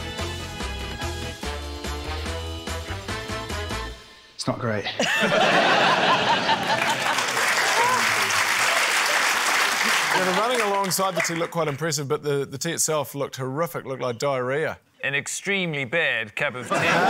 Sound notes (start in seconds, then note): 4.8 laughter; 6.5 applause